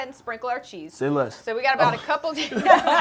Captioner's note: laughs